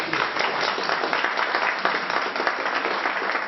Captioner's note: applause